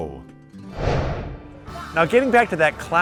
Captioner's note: swooshing